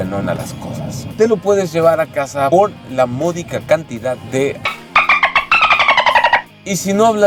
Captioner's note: dolphin sound